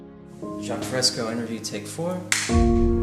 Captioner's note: clap